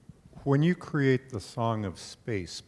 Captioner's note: voiceover